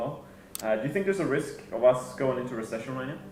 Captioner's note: clicking